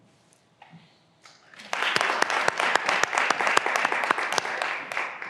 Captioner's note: graduands applauding